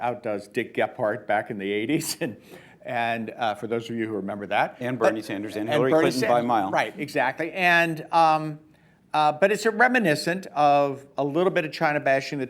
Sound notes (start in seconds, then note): 2.2 laughs